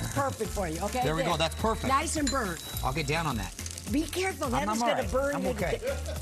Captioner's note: laughs